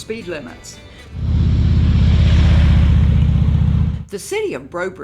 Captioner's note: motorcycle engine roars past